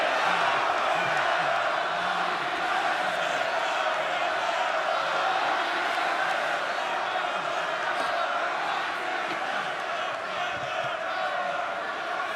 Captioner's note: crowd cheering